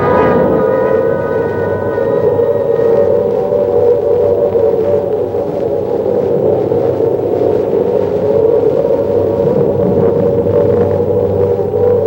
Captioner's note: wind blowing